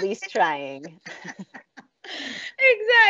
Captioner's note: all laughing